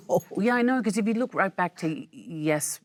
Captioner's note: Michelle laughs